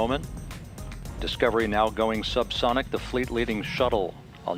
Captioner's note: double sonic boom